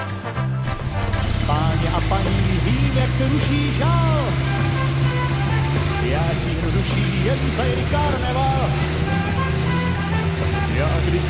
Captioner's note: engine revving & playing